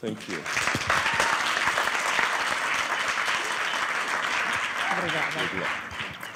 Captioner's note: applause